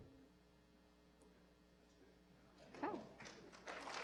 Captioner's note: applause